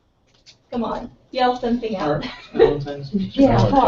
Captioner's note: laugh